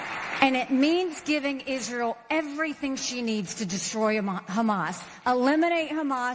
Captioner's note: applause